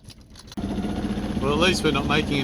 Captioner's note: motor puttering